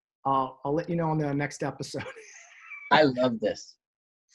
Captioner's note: laughs